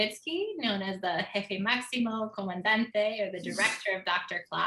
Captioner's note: speaks in foreign language